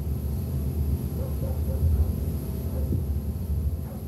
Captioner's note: barking